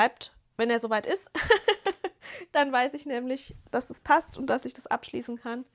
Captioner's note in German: gelächter